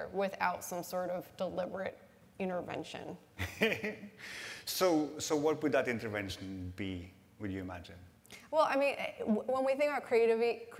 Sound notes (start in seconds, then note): 3.7 laughs